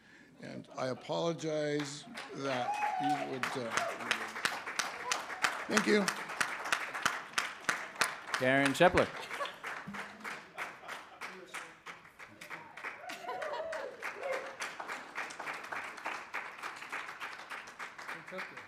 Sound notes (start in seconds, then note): 3.8 applause; 11.4 applause